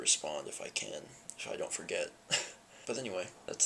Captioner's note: laughs